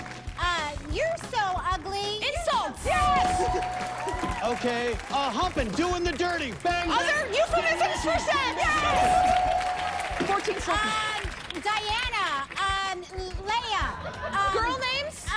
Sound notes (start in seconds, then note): 3.8 laughs